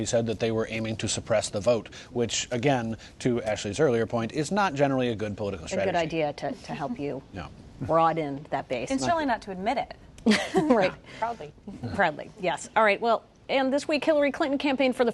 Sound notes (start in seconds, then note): 10.3 laughs